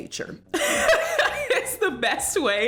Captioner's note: laughs